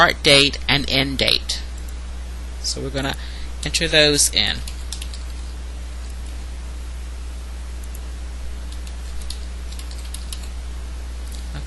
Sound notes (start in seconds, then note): 4.5 typing